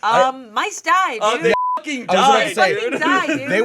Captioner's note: beep